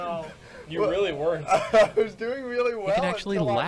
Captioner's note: laughing